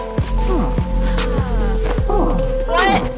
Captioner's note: sighs